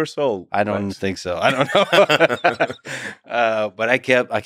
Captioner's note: laughs